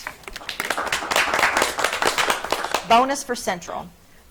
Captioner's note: audience clapping